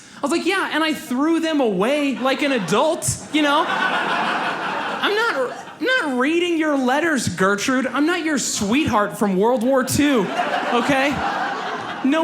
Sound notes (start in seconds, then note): 4.0 audience laughs